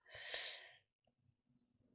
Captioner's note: sharp intake of breath